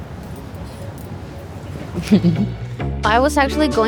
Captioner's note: chuckles